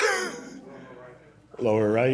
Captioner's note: laughter